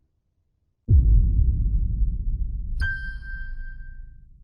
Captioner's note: low boom sound; high piano note